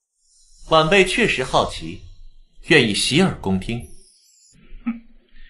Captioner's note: laugh